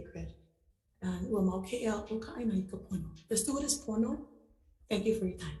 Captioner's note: foreign language